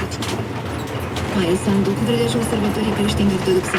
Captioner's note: news on the radio. Presenter’s voice